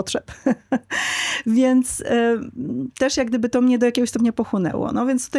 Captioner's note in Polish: śmiech